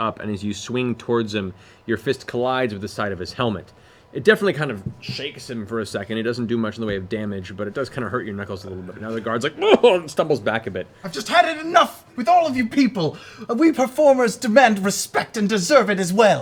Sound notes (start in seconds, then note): 9.6 startled sound